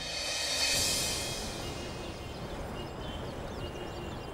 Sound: traffic noises

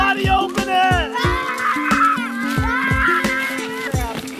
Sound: kids scream

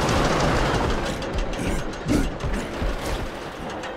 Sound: grunting

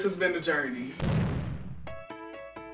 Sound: bomb explodes; peppy piano music

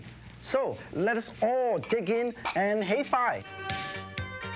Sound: speaking in foreign language; upbeat music

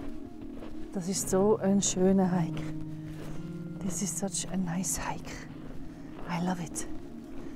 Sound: swiss german: das isch so e schöni Wanderig

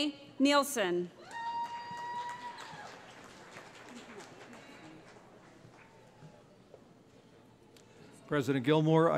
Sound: cheering

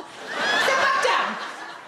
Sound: crowd laugh

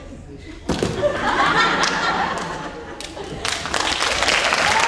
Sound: audience laughing; applause

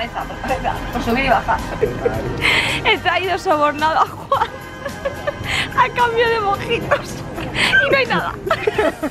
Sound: laughter

